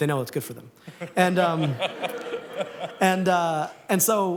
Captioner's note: laughter